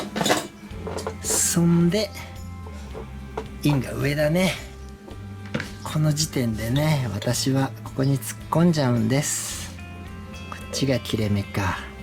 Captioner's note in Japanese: 吸気